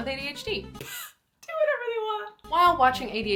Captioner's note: laughs